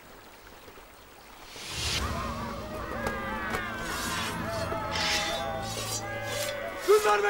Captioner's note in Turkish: Bağırma sesleri